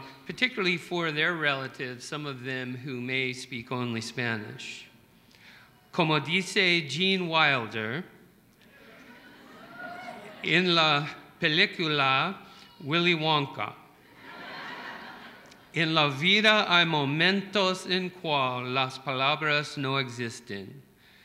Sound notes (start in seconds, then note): 5.3 speaking spanish